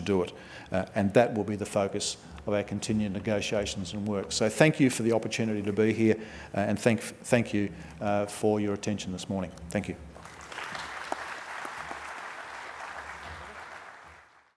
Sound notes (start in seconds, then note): 10.1 applause